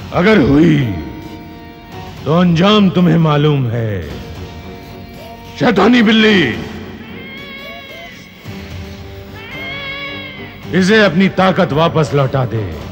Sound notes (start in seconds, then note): 6.9 cat yowling